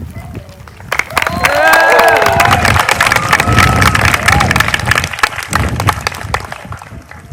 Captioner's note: applause